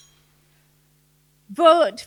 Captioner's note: bell rings